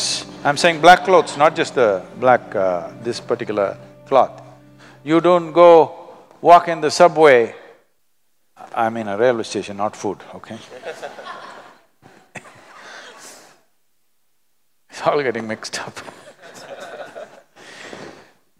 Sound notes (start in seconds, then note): 13.6 laughter; 16.2 laughs